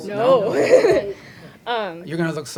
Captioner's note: laughter